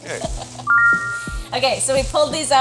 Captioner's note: laughing; text chiming brightly